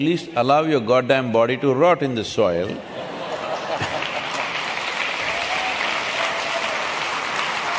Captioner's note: laughter/Applause